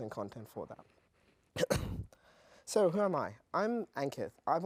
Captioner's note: cough